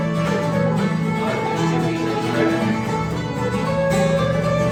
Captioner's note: mutters